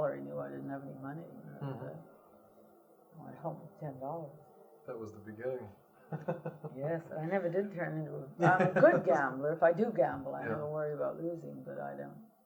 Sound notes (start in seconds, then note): 6.0 laughs